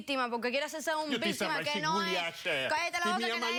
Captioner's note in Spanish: Habla en otro idioma